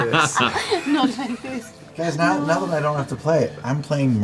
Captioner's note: laughing